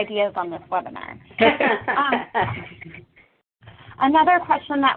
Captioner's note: laughter